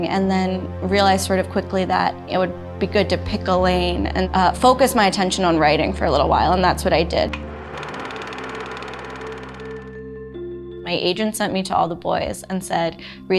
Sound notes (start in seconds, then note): 7.3 movie projector whirring